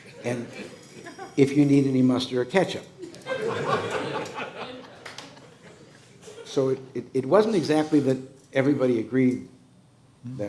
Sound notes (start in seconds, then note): 3.1 laughing